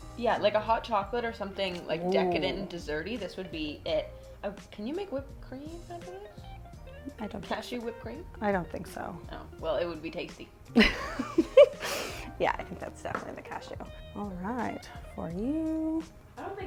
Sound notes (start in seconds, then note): 10.8 laughs